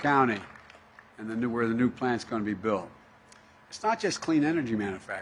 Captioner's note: applause